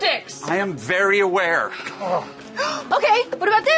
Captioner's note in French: gémit